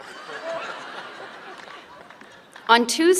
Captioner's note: laughter